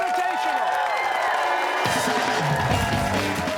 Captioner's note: cheers and applause